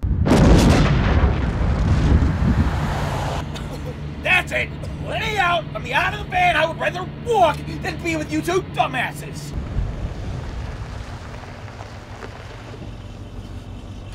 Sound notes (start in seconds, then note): 0.0 explosion; 3.4 coughing